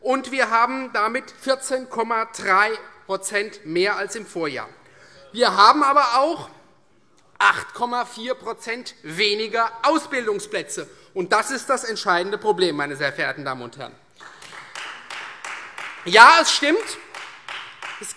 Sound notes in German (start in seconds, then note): 14.2 Beifall Freie Demokraten